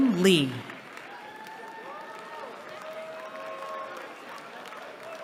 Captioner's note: cheering